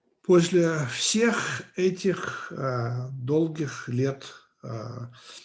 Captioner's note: translator speaking Russian language